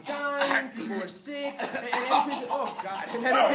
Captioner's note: coughing